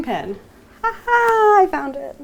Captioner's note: chuckling